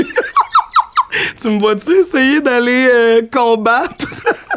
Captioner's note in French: rires